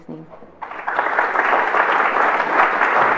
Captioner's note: applause